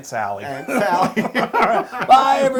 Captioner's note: laugh